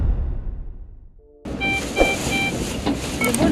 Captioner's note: monitors beeping